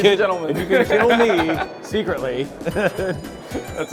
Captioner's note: laughs